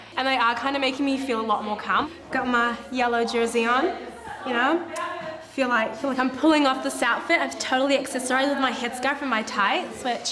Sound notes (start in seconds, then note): none